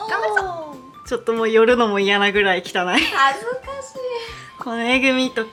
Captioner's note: laughs